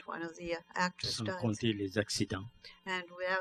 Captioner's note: speaking french